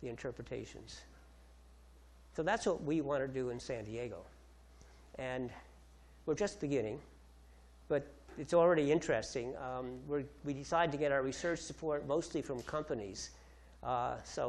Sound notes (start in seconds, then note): none